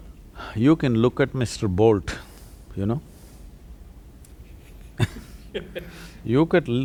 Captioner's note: laughter